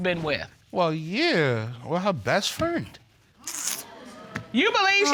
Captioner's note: clicks tongue